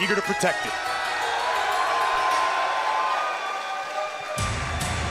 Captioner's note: crowd cheering